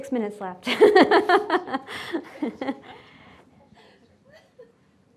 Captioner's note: laughing